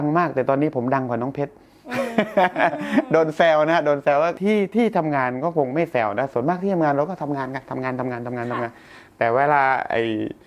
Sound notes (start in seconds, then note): 1.9 laughs